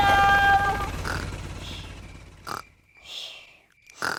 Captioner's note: baby alexander snoring